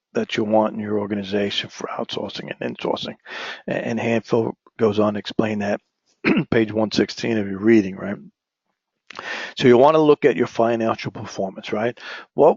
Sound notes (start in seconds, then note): 6.2 cough